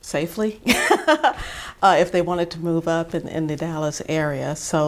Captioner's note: chuckle